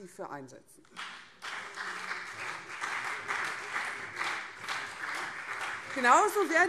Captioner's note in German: Beifall CDU und SPD